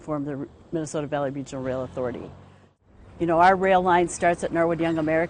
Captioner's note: none